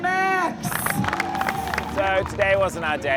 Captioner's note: crowd applauding